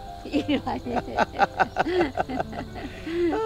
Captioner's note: both laughing